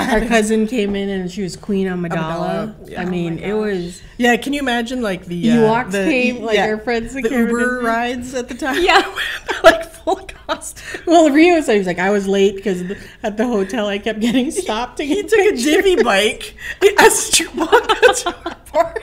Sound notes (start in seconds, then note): 8.7 laughing; 18.8 laughing